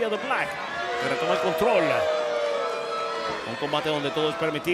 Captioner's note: crowd booing; crowd cheering